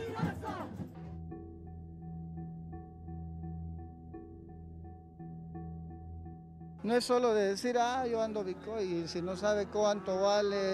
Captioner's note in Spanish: bullicio